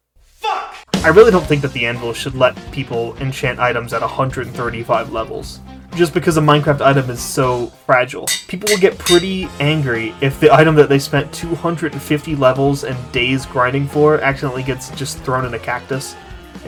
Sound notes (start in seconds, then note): none